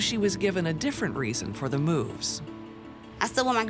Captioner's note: none